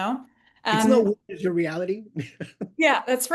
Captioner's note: laughs